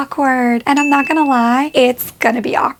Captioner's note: bell dings